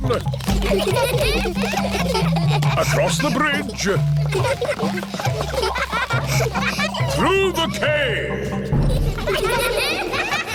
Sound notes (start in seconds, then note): 0.2 children giggling; 6.7 echoing